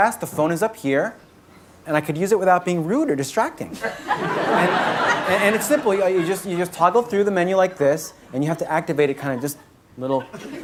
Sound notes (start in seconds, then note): 3.8 audience laughing